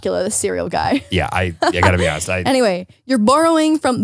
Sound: laughs

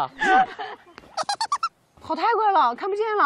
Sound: giggle

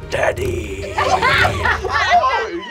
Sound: laughing

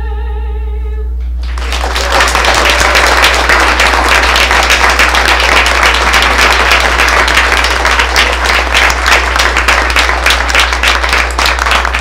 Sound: applause

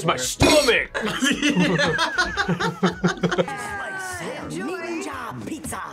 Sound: laughs

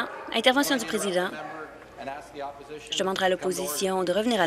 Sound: voice trailing

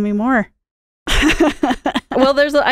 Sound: laughing

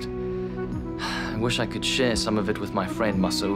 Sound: sighs

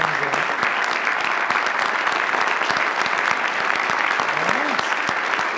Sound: audience applauds

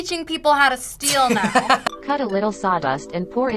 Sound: laughs

